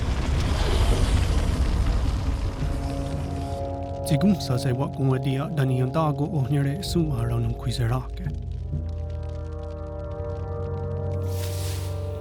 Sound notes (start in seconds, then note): 0.1 fire crackling; 4.5 speaking Native language